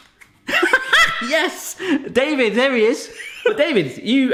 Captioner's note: laughs